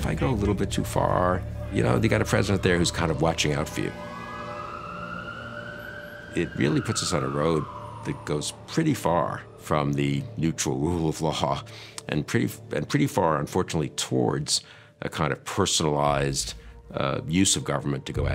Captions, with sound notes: If I go a little bit too far..." You know, they got a president there who's kind of watching out for you. (siren wailing) It really puts us on a road that goes pretty far from the neutral rule of law and pretty, and pretty far, unfortunately, towards a kind of personalized use of government